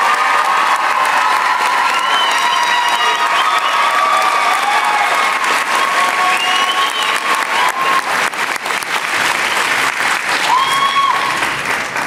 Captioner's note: applause; cheers and applause